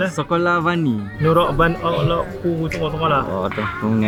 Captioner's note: giggle; speaking Vietnamese